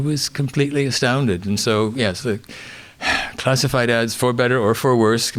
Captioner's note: sighs